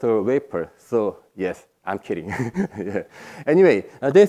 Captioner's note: laughs